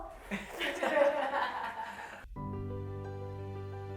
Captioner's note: all laughs; gentle music